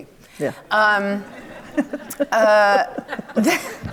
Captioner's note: audience laughs